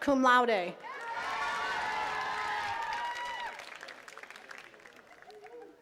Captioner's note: attendees cheering and clapping